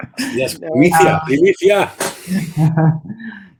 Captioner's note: in Spanish